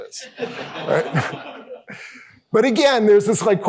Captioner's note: laughter